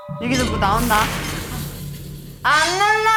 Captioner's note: Scratch